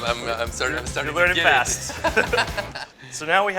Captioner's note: laughter